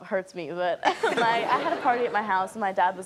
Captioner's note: laughing